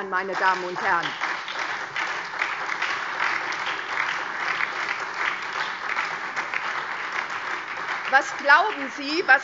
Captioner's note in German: Lebhafter Beifall SPD und DIE LINKE